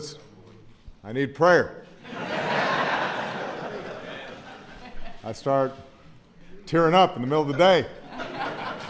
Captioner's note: laughter